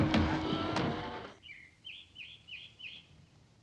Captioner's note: bird chirping